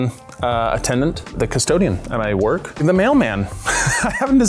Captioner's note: laughs